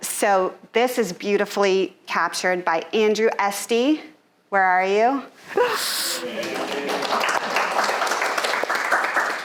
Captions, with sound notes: So this is beautifully captured by Andrew Estee, where are you? (audience applauding)